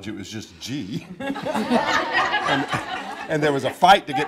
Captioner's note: audience laughing